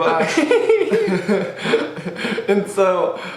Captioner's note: both laugh